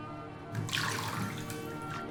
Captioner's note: bathwater splash